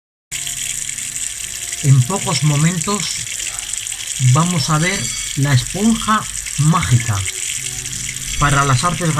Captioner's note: sound of water